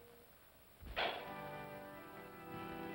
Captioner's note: pop sound; organ plays slowly